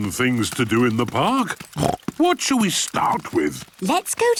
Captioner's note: snorts